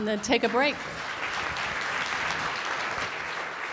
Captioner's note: applause